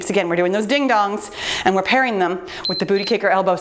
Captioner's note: timer beeps